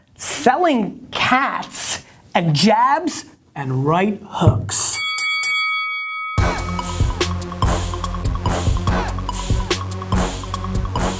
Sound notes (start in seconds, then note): 4.9 bell rings; 6.4 heavy hip-hop music